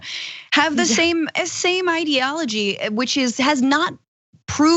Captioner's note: laugh